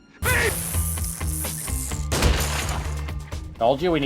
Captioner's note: explosion